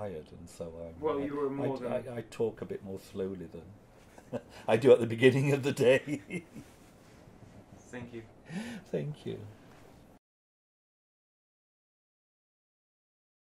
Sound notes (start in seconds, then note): 5.9 chuckling